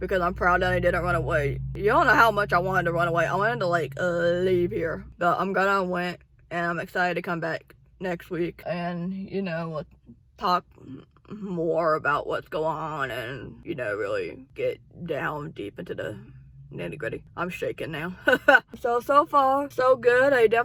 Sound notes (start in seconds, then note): 18.2 laughs